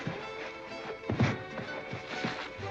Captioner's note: thump